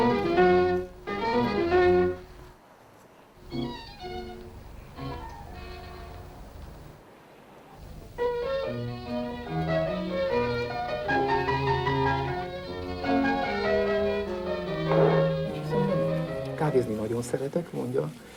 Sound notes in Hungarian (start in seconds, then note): 3.4 zene elhalkul, belvárosi zsivaj; 7.5 lágy, idilli klasszikus zene; 12.0 Jiří Menzel csehül beszél, tolmács magyarra fordítja